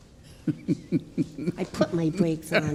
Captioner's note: laughing